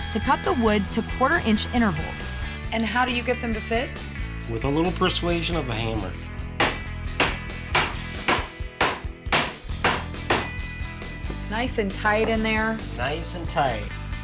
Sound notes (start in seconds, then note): 7.1 hammering